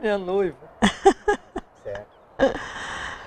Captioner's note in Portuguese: risos